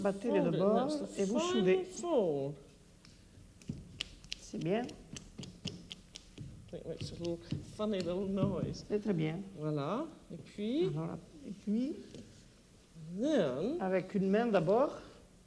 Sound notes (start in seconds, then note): 0.0 speaking French; 3.3 speaking French; 3.5 dough snapping; 10.2 conversing in French; 13.4 speaking French